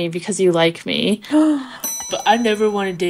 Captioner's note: gasp